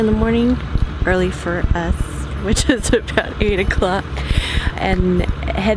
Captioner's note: laughs